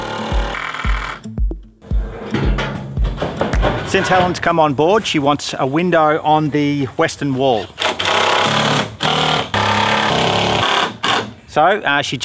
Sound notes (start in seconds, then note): 0.0 drill; 7.8 drill